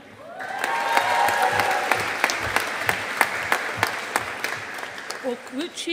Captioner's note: audience applauding